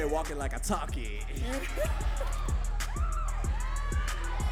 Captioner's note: audience cheering